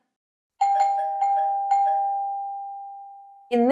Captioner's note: doorbell ringing